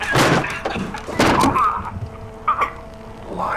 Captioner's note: choking